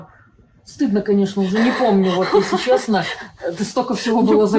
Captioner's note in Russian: Неловкий смех